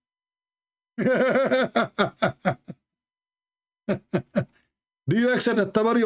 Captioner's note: Ketawa